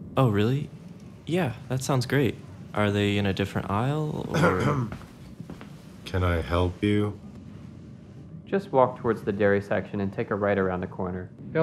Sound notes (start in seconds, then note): 4.2 clears throat